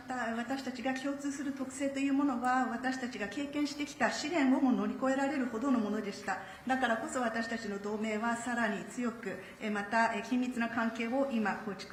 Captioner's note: speaking Japanese